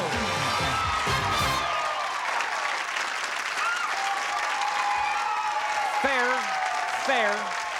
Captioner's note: applause